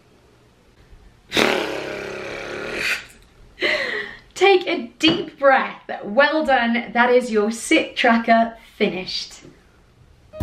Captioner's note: phew